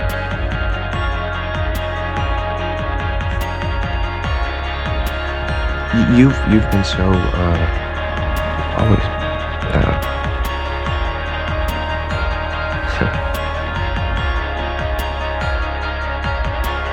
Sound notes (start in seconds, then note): 12.9 Max laughs